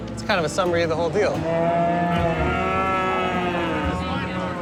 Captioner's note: cows mooing